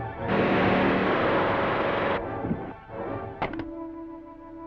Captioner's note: loud electric buzzing